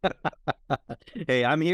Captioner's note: laughing